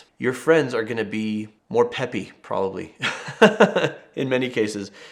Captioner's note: chuckles